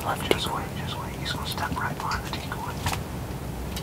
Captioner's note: whispering